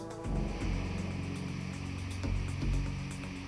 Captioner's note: static